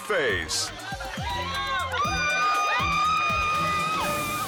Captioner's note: crowd cheers; suspenseful music continues